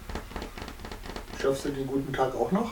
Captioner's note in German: trommelt auf Tisch